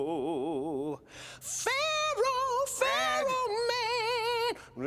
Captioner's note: falsetto